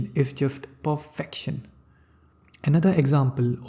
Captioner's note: none